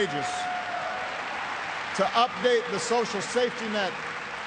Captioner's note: applause